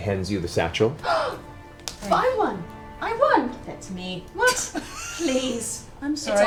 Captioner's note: gasps